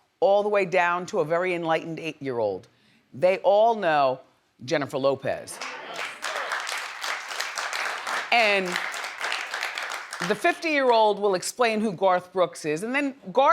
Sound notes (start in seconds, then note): 5.5 audience applauds